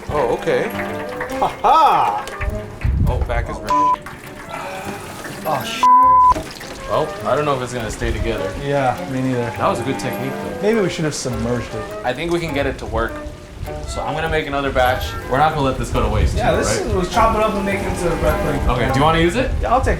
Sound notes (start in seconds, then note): 5.8 beep